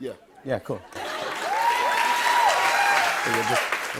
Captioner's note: cheers and applause